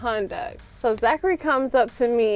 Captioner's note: hands clapping